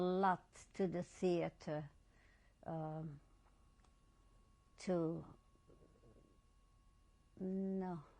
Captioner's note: pauses for 3 seconds